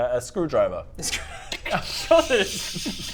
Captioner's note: laughs